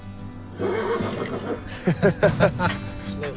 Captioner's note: whinnies; guys laughing